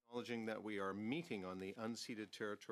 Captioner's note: speaking French